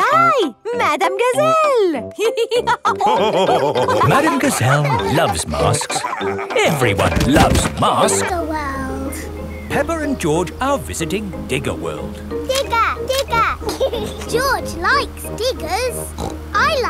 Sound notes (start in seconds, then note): 2.2 all laughing; 13.3 laughs; 16.1 snorts